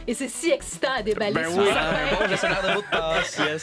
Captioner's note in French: rires